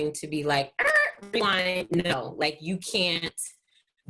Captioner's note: mimics buzzer